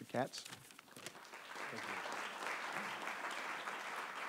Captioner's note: applause